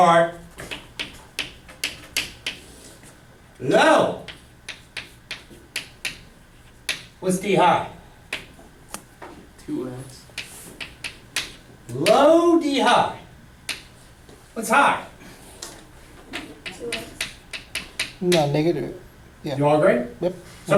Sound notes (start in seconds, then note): 9.4 voiceover; 17.1 voiceover